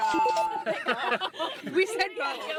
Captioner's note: laughing